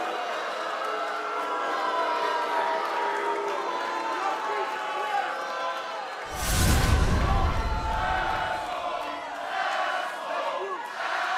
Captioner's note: crowd cheering